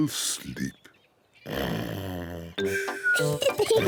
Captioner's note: yawns; snores; peppa pig and george giggling